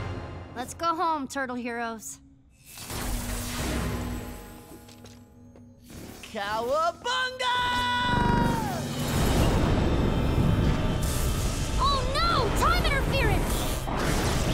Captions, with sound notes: Let's go home, Turtle heroes. Cowabunga! [thundering] Oh, no! Time interference!